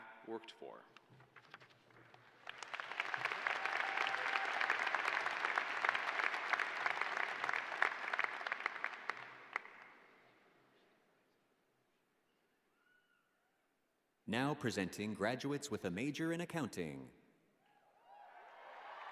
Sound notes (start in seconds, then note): 5.3 applause